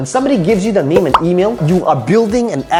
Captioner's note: bubbles popping